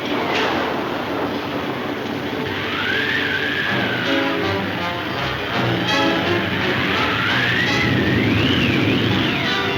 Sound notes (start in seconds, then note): 2.3 dramatic music; 3.0 wind howling